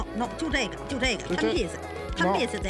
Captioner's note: speaking foreign language